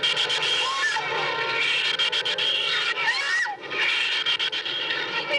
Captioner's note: screams